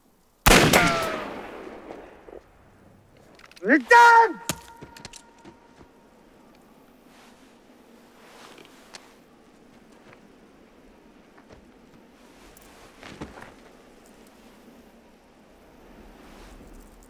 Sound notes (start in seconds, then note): 0.4 gunshot booms; 3.9 shouts in foreign language; 6.8 wind whistling softly